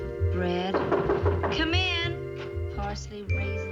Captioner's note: knock on door